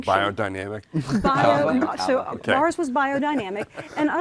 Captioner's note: murmuring